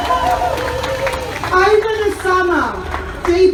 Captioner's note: crowd cheers